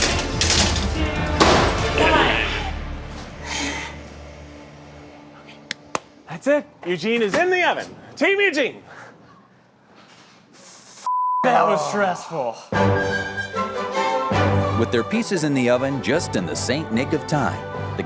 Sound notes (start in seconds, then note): 5.7 clapping; 11.1 beep